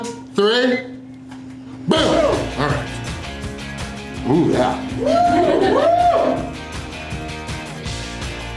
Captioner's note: crowd